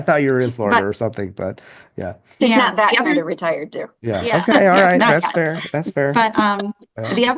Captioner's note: laughter